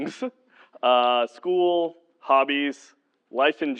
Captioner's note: laugh